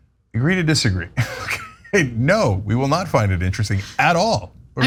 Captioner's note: laugh